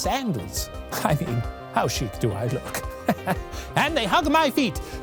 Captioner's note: laughs